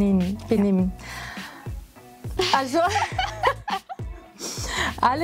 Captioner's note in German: lachen